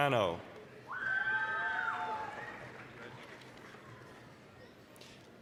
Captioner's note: applause, cheering